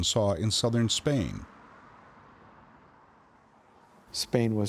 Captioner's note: cars humming